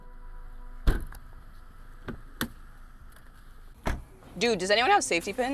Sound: car door thuds

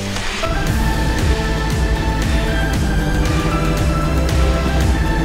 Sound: vehicle engine drones

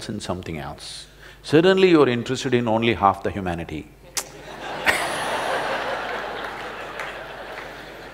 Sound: laughter

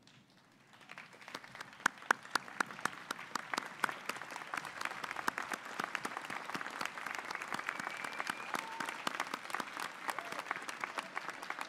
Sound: applause

